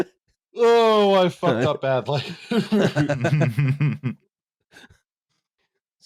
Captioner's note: laughter